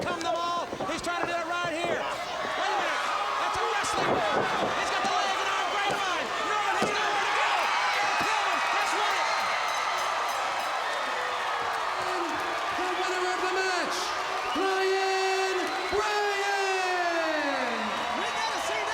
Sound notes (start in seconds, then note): 7.6 crowd cheering; 8.6 bell ringing; 15.4 crowd cheering